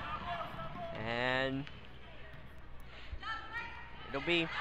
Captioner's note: crowd talking and yelling